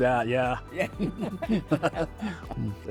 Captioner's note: both chuckling